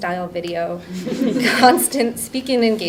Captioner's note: audience laughing